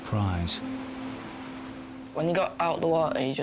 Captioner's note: waves crashing